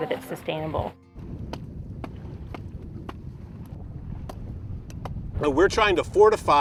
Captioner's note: dull thud of mallets striking